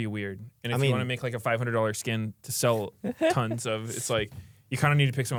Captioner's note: laughs